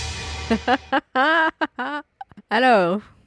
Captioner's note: laughs